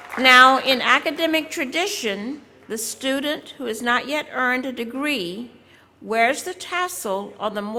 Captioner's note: applause